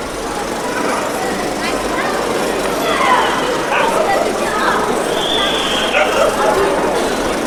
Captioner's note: crowd noise, dog barking, loud film projector